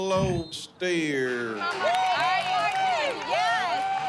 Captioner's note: cheers, applause